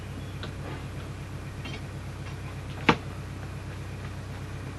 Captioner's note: cupboard opening, clanking noises, cupboard closing sounds